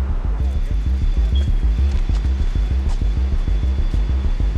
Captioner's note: dramatic music; alarm beeping